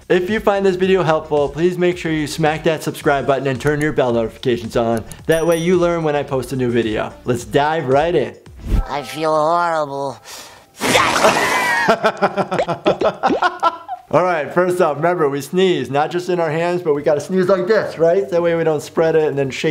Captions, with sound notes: If you find this video helpful, please make sure you smack that subscribe button and turn your bell notifications on. That way you learn. When I post a new video. Let's dive right in. - I feel horrible. (character sneezes) (laughter) - All right, first off, remember we sneeze, not just in our hands, but we got to sneeze like this, right? That way we don't spread it and